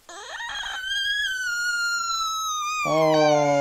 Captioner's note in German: weint